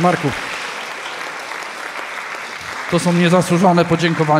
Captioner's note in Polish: oklaski